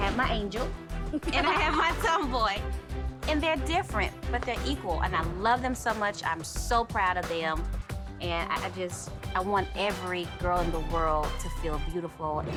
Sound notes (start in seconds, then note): 1.1 laughs